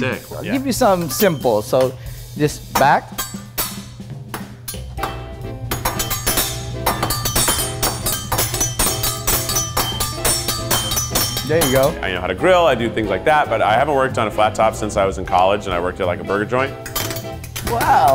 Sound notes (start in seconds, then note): 3.4 spatula clangs; 4.9 spatulas clang rhythmically; 16.8 spatulas clanging